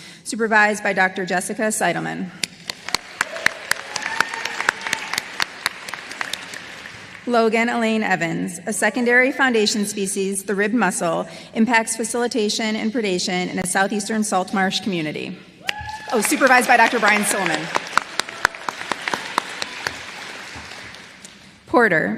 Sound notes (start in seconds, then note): 6.1 applause; 20.1 applause